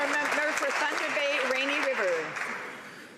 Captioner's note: some Applause